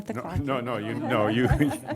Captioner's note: laughter